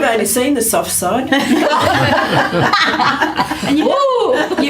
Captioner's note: laughter